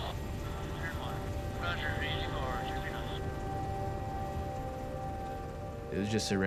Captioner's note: man Over Radio